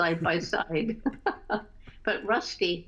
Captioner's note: laughter